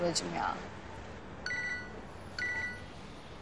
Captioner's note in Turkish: Telefon sesi